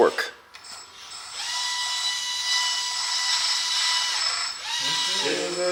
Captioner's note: forklift loading